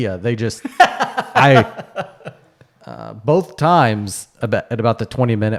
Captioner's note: laughing